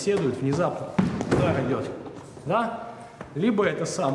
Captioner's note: fist thudding